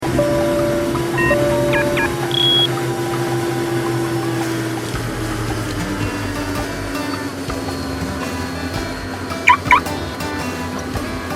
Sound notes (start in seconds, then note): 0.0 plane noises; 9.4 car alarm